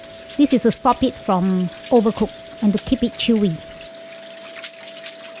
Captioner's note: crunchy